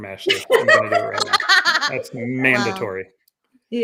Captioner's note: laughing